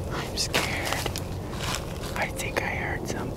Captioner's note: whispering